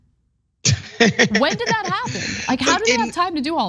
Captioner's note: laugh